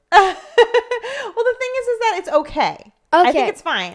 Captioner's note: laughs